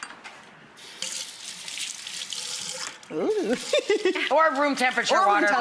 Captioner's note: water running